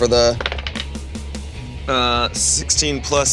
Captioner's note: die rolling